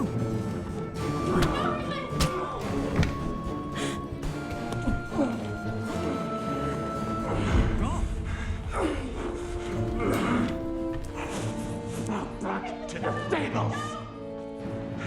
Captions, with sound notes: Oh! - No, Heathcliff! (dramatic music) (grunting) - Back to the stables.